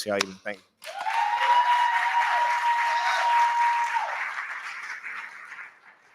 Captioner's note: cheering